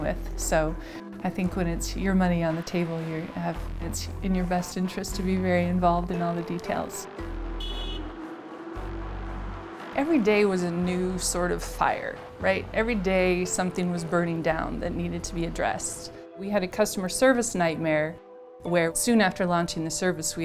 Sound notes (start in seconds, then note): 7.4 car honks